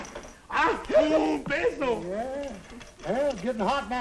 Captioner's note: non-english speech